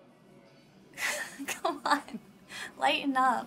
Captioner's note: chuckles